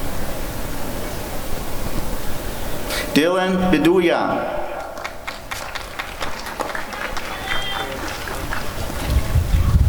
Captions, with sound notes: Dylan Viduya [applause and cheering]